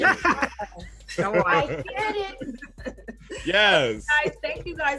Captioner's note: talking and laughing over each other